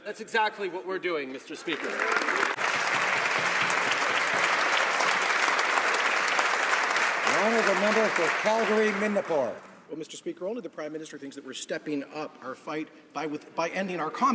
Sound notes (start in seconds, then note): 5.1 applause